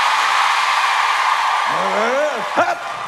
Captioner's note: audience cheers